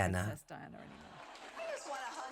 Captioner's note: crowd applauds